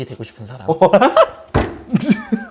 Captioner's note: failed to hold back laughter